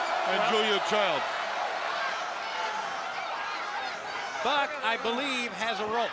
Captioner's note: crowd chatter